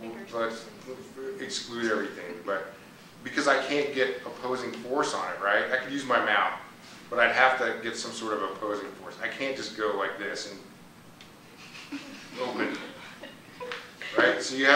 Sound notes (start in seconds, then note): 6.7 laughter